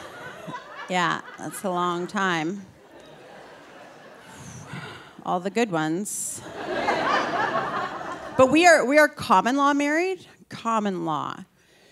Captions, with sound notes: Yeah, that's a long time, all the good ones. (audience laughing) But we are common-law married, common law.